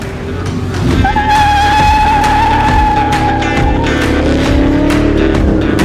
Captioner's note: car tires squeal; upbeat rock music